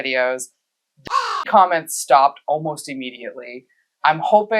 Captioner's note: caw